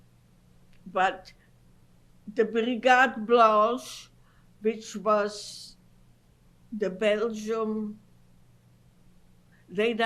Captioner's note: non-english